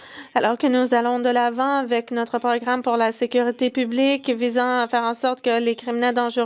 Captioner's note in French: voix de l'interprète